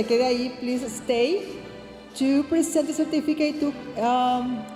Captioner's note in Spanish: hablando en inglés